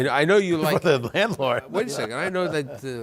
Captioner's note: laughter